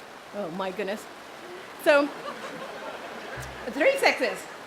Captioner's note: audience laughs